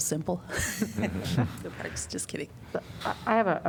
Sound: laughter

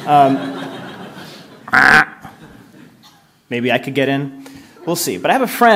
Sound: duck sound

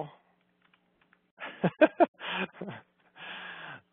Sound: laughs

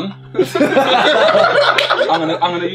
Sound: all laughing

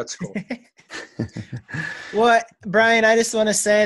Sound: laughing

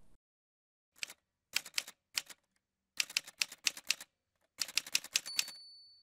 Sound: typewriter sounds

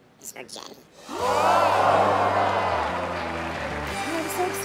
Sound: crowd gasping

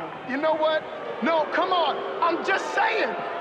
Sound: crowd booing

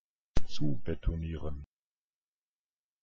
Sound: fast Pronunciation

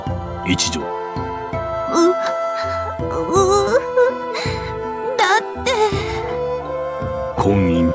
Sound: sobbing

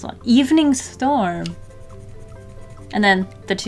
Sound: even more pencil scratching

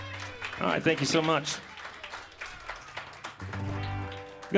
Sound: applause

